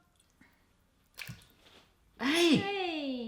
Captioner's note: splashes